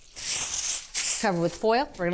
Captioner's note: foil paper crinkling